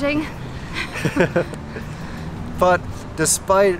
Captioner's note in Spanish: risas